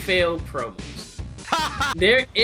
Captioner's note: laughter